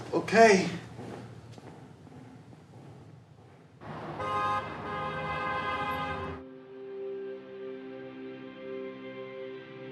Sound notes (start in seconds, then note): 3.8 cars honking; 5.4 suspenseful music